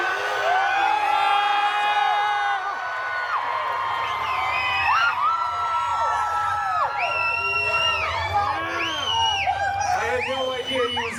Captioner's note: guests cheering, screaming and whistling